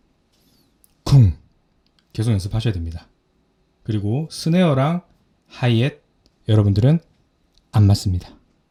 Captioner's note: clears throat